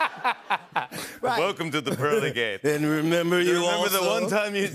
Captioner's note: laughter; deep voice